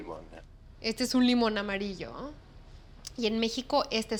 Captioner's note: speaking Spanish